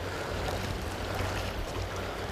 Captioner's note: splash